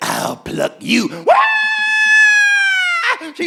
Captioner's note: Bimwili screaming